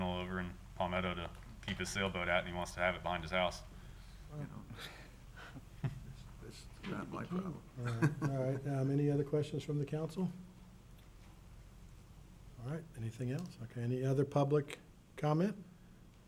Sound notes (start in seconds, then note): 7.8 chuckles